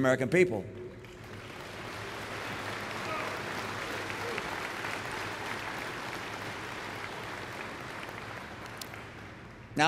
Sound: applause

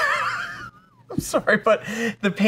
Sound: laughing

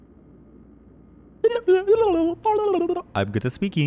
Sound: tongue exercise noises

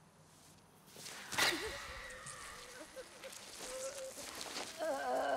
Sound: Delaney grunts

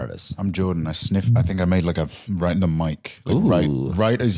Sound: sniffs

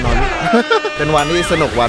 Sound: chuckles

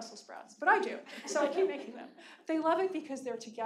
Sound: audience laughing

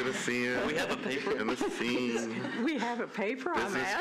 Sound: laughter

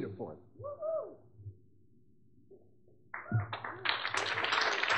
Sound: audience member whooping; audience clapping

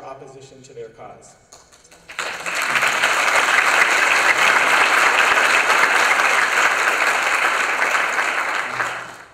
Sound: applause

